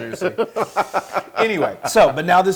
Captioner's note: laugh